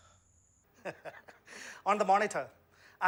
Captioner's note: laughs